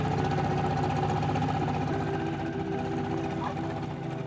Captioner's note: motor quiets